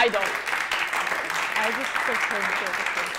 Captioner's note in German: Applaus